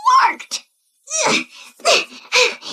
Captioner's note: moaning